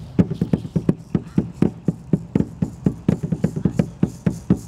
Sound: drum beating; rattle sounding

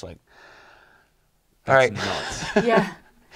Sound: sigh

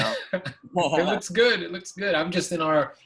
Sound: chuckles

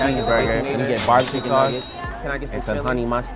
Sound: cash register dinging

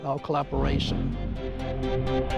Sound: engine revving; uplifting music

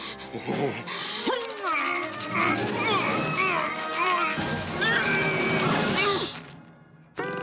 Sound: grunting

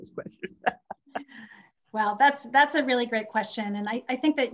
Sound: laughs

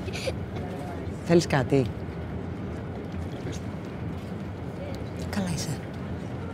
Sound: child laughing; Vanina speaking foreign language; Vanina and attendant speaking foreign language

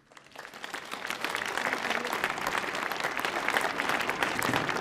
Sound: audience applauding

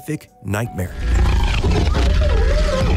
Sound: snorting; screams

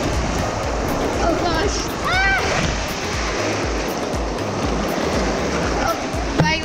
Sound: yells

